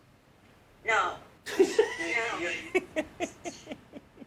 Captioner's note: laughing